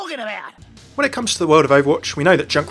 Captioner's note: voiceover